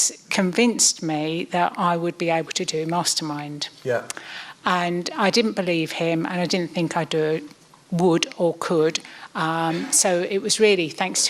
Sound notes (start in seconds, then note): none